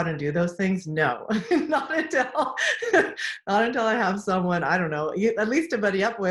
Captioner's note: laughs